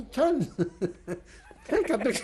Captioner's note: laughs